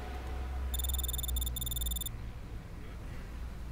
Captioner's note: text whirring